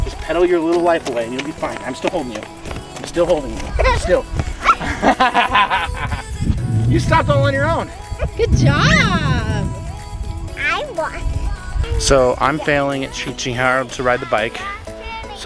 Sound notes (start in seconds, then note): 4.7 laughs